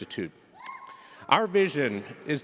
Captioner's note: cheering